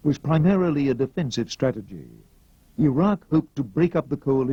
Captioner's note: none